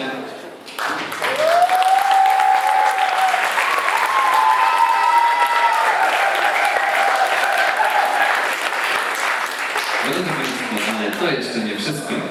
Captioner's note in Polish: Aplauz